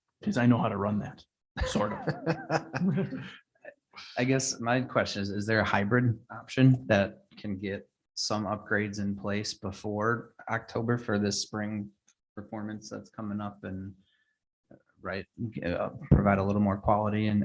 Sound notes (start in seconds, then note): 1.6 people laughing